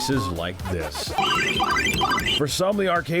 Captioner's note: game chiming